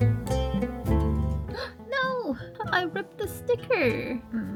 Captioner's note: gasp